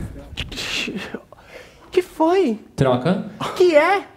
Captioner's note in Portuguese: barulho de porta